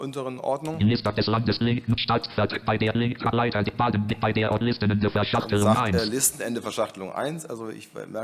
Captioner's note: broken sentences